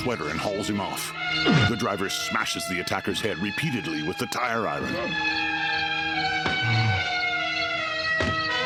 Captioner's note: grunting